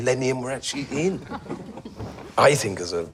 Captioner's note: laughing